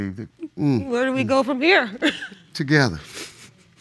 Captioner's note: chuckles